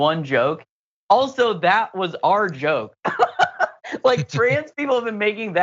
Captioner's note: laugh